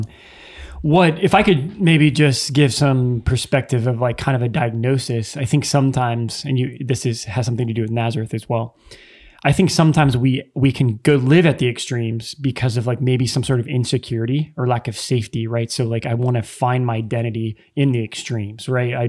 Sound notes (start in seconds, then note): none